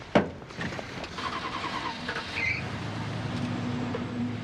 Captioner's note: car engine revving